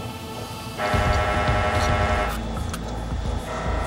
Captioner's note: he is breathing hoarsely